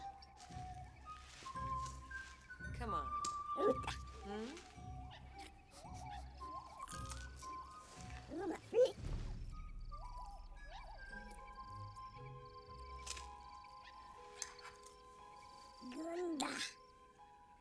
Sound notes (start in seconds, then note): 2.2 Speaking Ewokese; 5.1 sniff Sniff; 7.6 Speaking Ewokese; 15.5 Speaking Ewokese